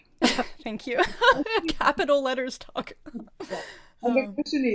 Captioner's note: laughing